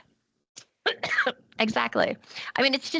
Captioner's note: coughing